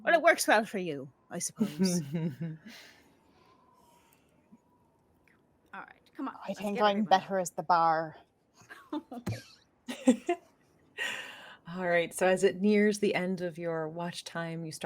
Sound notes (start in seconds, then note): 9.0 laughing